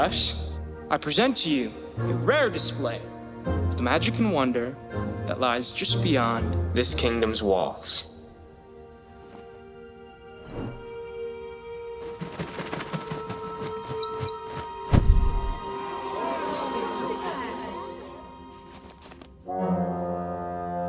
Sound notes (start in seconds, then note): 10.4 bird chirps; 15.4 crowd murmurs